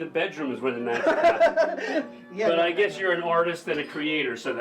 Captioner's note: Joseph laughing